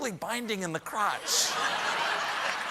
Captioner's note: cheers and applause